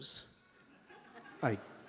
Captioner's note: laughter